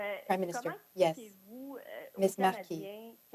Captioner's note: speaking French